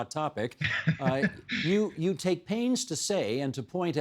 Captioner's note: laughing